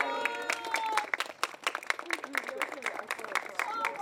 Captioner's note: applause